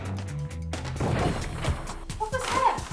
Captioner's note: thudding